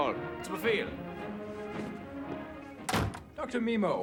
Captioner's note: speaking german